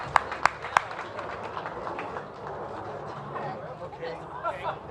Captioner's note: cheers and applause